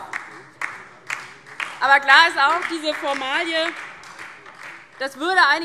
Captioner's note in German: Beifall DIE LINKE und vereinzelt Freie Demokraten